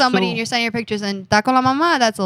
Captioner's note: speaking In Foreign Language